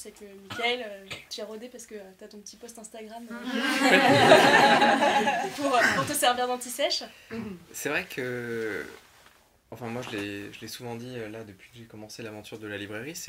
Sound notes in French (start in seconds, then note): 3.5 rires